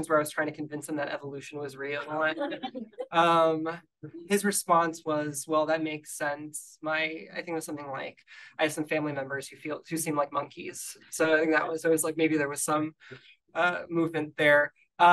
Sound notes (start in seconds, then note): 2.0 audience laughing